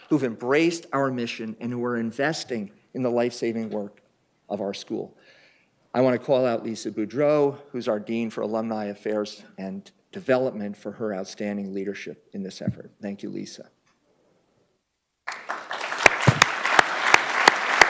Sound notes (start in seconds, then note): 15.2 applause